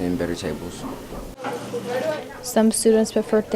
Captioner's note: classroom natural sounds